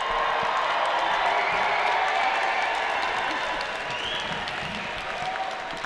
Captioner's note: audience applauding